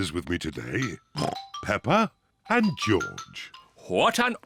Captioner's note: oinks